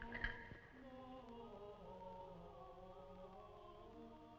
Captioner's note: item clattering